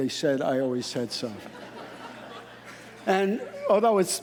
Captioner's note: audience laughing